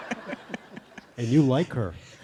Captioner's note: laughter